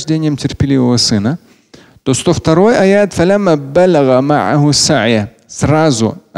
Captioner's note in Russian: говорит на арабском